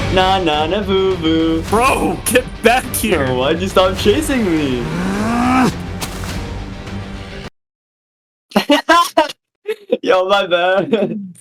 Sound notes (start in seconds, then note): 4.6 player 2 grunts; 9.5 laughs